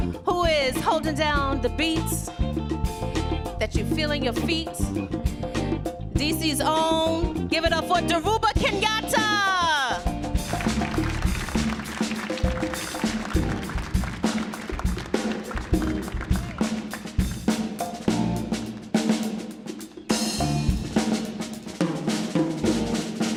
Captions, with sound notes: who is holding down the beats that you feel in your feet. DC's own, giving up for Derubo Kangetta. (audience applauds) (playful drum music)